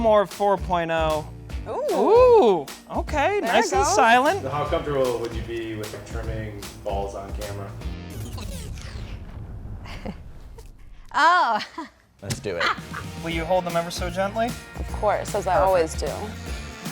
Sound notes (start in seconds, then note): 8.6 music skipping; 8.6 woman chuckling; 11.1 woman laughing